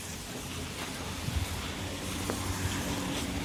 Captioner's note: raining